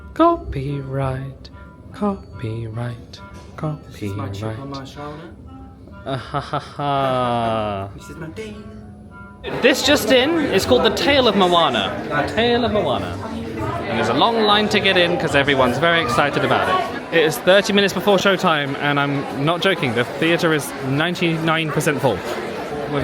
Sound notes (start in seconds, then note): 6.0 laughing; 13.3 crowd chattering